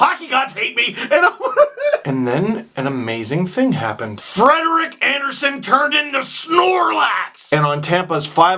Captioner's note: sobs